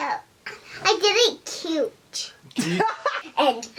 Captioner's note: laughter